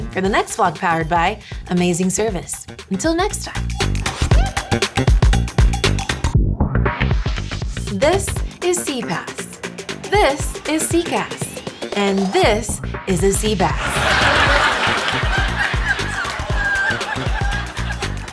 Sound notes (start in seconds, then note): 4.1 bright energetic music; 13.2 audience laughing